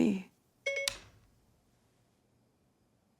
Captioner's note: phone beeping